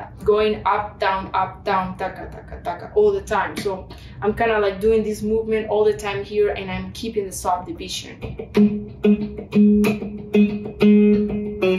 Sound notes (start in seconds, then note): 3.5 makes beat noises; 7.9 funky guitar music